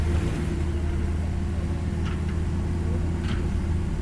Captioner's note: truck sound